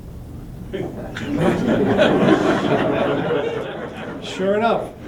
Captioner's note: laughter